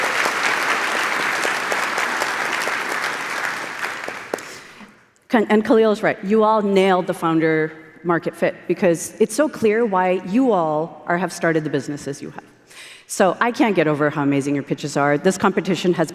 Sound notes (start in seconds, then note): 0.0 applause